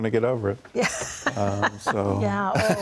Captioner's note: laughing